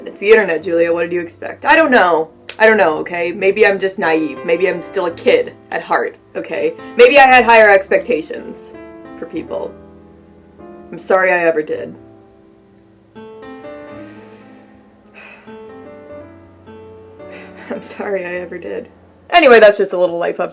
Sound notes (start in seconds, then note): 17.2 chuckle